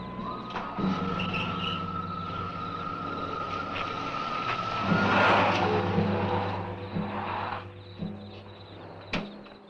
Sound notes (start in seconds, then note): 0.0 engine rumbles; 0.3 engine cranks